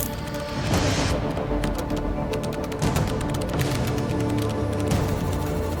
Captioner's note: keyboard clacking continues